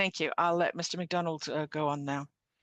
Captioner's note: speaking French